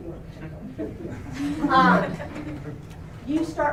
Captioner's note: laughter